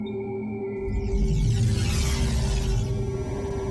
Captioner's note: computerized humming